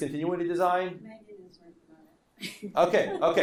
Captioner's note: laughing